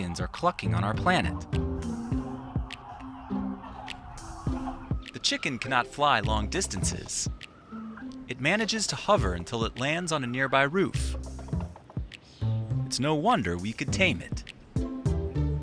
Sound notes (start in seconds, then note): 2.8 chickens clucking